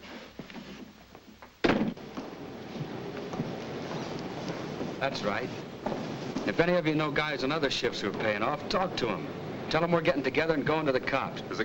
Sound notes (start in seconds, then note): 1.6 door bangs shut